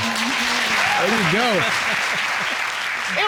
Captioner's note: all applauding; chuckling